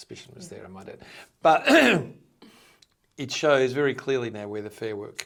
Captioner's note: clearing throat